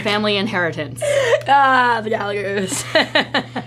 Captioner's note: laughs